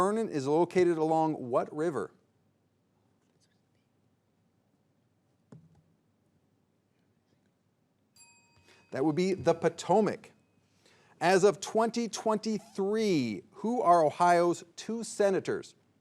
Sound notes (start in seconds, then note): 8.2 bell rings